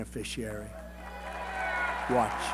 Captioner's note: cheering and applause